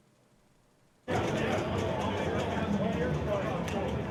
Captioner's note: loud arcade ambience